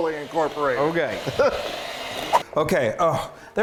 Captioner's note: laughing